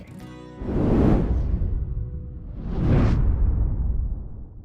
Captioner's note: air whooshes